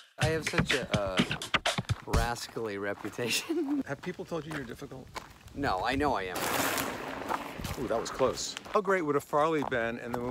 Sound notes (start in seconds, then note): 6.3 air whooshing